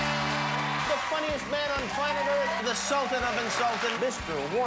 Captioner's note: cheers and applause